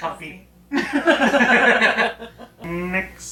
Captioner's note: both laughing